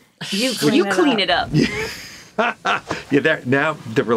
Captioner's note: laughing